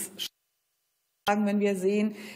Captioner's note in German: Tonstörung